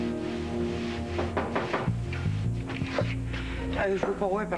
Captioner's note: On frap à la porte